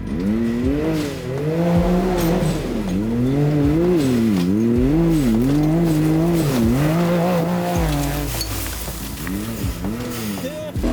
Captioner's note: engine revving